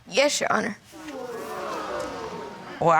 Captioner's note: audience gasps